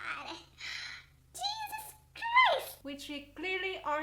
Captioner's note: gasp